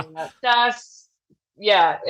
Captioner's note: laughs